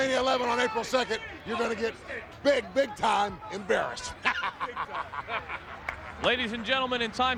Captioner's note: laughs